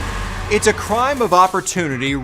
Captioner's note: car ignition starting